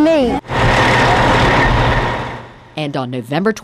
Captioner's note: crane rumbling